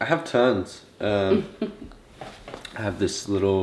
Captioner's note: mom laughs